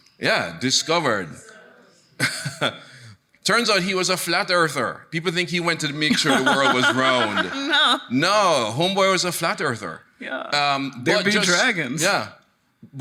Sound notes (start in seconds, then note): 2.2 chuckles; 6.0 laughs